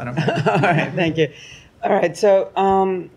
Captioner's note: laughter